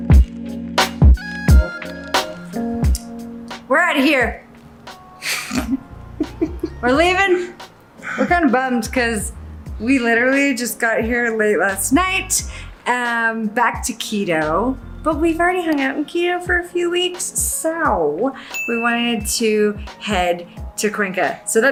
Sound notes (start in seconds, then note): 5.2 laughs